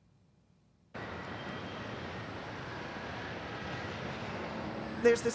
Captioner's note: traffic, city sounds